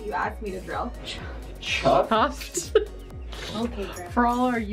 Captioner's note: laughing